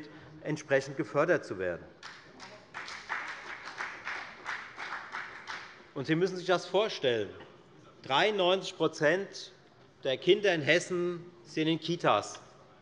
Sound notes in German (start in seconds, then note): 2.0 Beifall bei der FDP